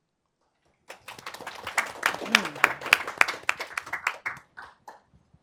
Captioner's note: audience clapping